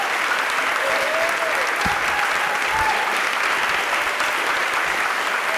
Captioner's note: applause